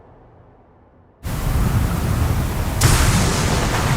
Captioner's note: wind whistles